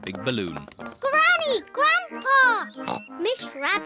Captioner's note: oinks